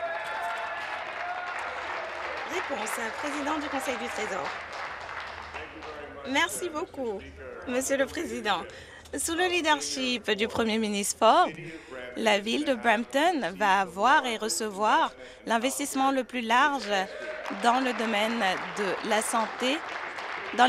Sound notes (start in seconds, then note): 0.0 applause; 4.9 applause and cheering